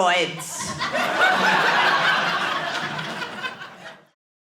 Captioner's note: speaks French; audience laughing